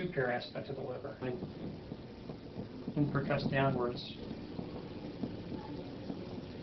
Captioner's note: thumping sound